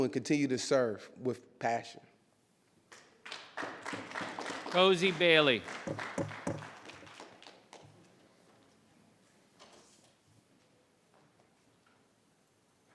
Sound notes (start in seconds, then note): 3.2 audience clapping